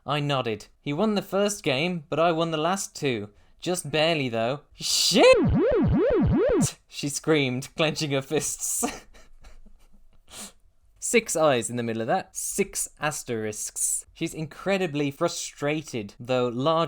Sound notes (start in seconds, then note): 8.8 laughter